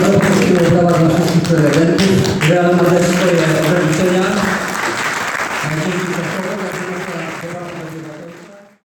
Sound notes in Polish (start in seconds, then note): 5.2 Aplauz